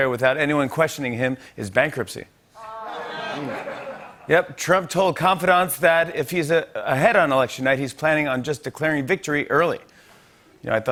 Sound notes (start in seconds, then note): 2.6 audience oohs